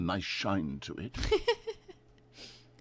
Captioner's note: laugh